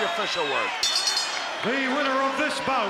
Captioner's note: bell rings